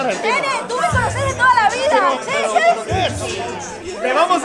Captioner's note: Argentinian accent